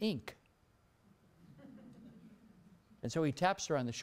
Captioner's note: laughter